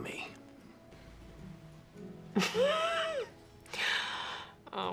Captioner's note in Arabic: يضحك